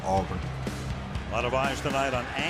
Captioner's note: cheering